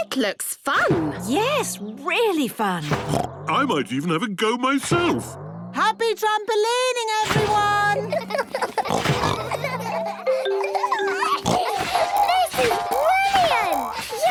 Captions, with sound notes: - It looks fun! - Yes, really fun! (snorts) - I might even have a go myself! - Happy trampolining, everyone! (all laughing) (giggles, snorts) - This is brilliant!